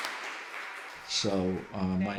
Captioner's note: applause